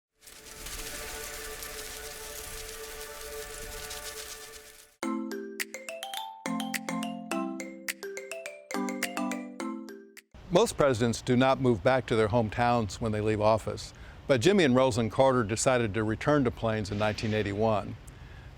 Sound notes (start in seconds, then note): 0.0 butterflies Fluttering; 5.0 peppy Music